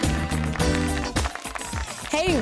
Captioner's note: audience cheering